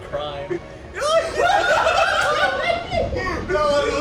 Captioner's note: + friends laughing